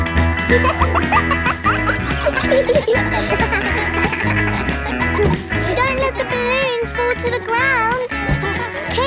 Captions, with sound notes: (POP MUSIC PLAYING) (KIDS LAUGHING) Don't let the balloons fall to the ground.